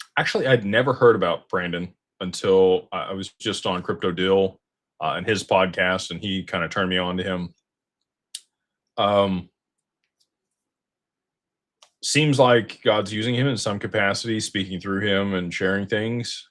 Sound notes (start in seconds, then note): none